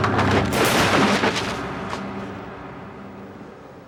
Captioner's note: papers crashing